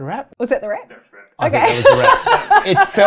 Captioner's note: laughing